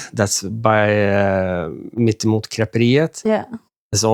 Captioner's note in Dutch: spreken in een vreemde taal